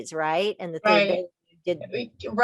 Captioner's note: mixed conversations